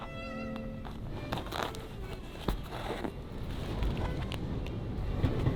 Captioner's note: gentle classical music; fabric scratching